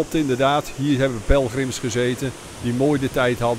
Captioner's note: voiceover